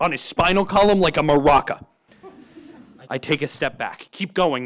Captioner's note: laughter